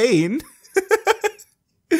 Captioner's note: laughing